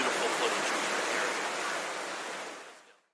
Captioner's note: water flowing